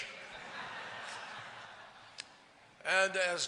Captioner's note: laughter